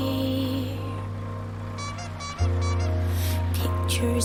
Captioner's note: horn squeaking